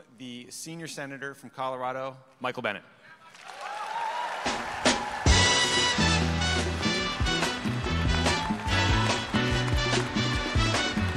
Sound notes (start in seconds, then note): 3.3 audience applause; 4.8 upbeat music